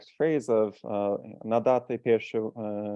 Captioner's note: non-english